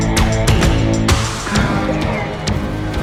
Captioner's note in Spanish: bocina